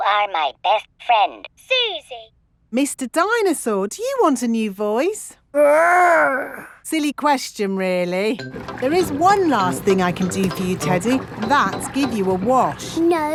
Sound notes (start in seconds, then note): none